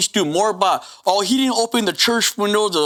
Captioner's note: inhales